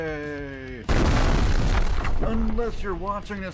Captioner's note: explosion